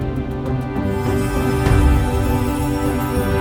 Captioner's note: magical tinkling